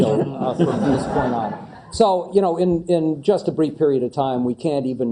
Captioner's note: laugh